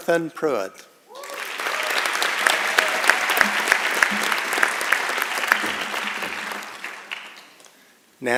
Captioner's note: applause